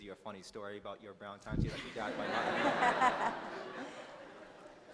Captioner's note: laughter